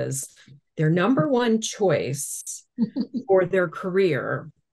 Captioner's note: chuckling